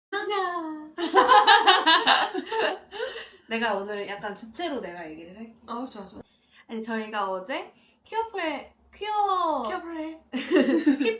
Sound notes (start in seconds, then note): 2.9 laughter; 10.3 laughter